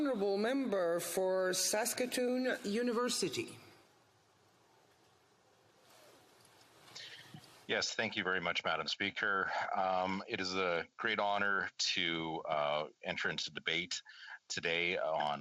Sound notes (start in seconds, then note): 7.6 speaking French